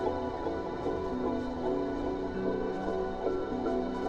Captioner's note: none